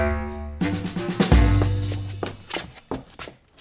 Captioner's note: shuffling shoes